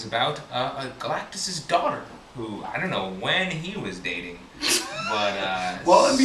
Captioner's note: laughs